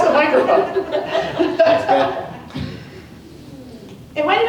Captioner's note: laughter